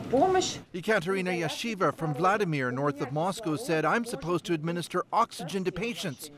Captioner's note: speaking Foreign Language